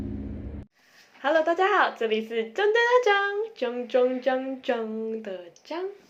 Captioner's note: sound effect